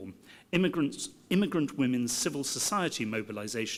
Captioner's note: none